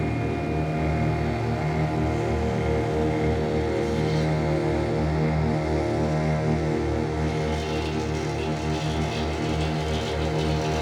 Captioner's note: objects scraping vibrating on woks